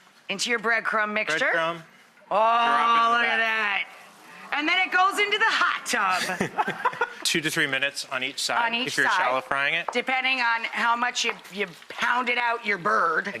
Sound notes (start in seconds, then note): 6.1 laughs